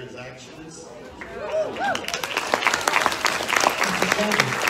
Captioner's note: audience applauds